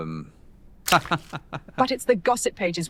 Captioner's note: Mr. McShavon laughs